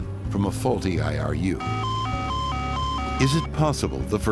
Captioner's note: beeping